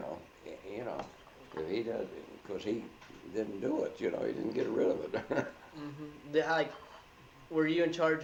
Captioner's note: chuckles